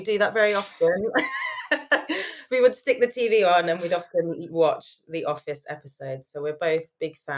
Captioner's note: laughing